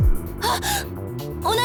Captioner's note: gasp